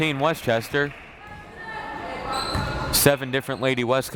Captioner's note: crowd members shouting